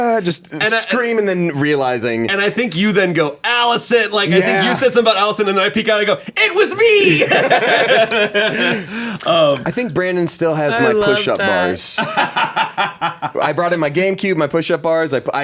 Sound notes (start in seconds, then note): 7.0 everyone laughs; 10.6 laughs